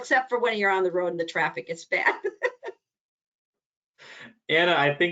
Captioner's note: laughs